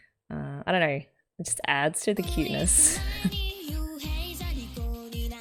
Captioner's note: laughs